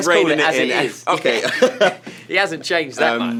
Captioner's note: laughs